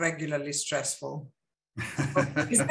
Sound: chuckles

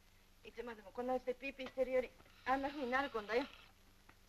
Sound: none

